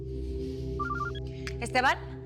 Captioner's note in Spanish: Suena el teléfono